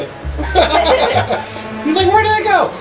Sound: both laughs

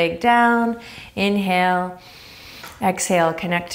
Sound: inhaling deeply

